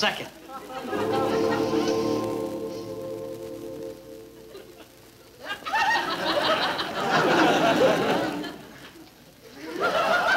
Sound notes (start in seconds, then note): 0.6 singers vocalizing; 4.3 audience laughing